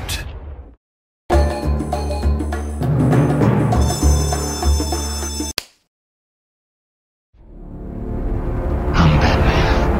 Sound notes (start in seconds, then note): 5.6 slap